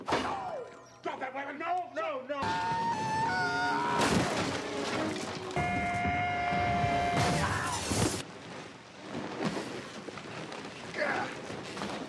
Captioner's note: screaming